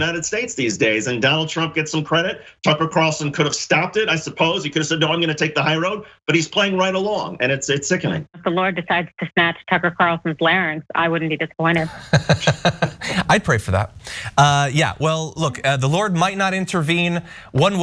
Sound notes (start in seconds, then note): 11.7 laugh